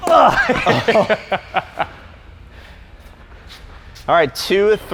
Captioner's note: laughs